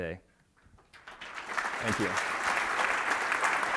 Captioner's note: applause